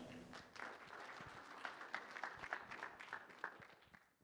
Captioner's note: applause